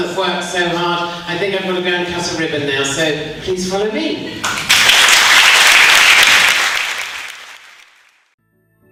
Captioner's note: applause